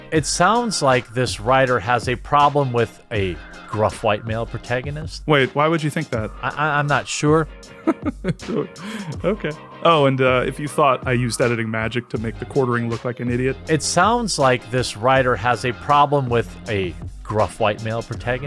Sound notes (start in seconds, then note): 7.7 laughing